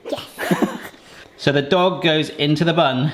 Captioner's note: laughs